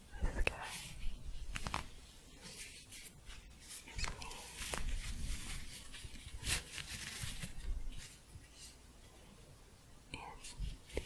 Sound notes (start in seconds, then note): 5.3 shuffling